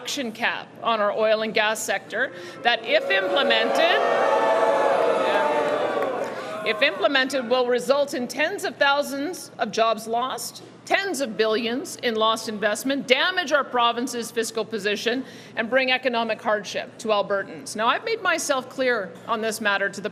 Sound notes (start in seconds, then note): 10.2 booing